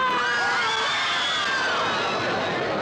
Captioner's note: Angela screams; audience screams; audience chattering